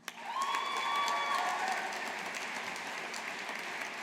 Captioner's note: audience applauding